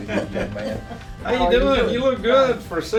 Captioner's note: laugh